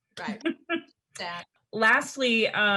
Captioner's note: laughs